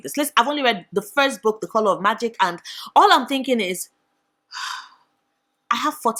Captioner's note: sigh